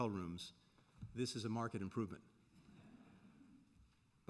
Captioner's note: laughter